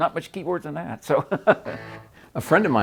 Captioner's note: laughs